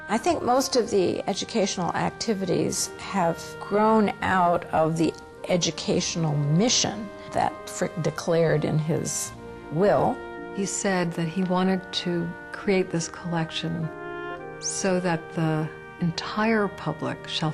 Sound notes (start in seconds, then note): 0.2 voiceover; 10.8 voiceover